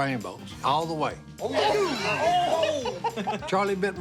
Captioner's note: laughter